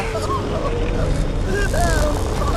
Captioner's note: crying